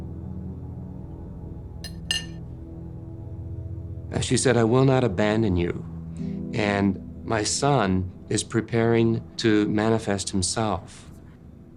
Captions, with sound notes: (cutlery clinks on plate) As she said, "I will not abandon you. And my son is preparing to manifest himself."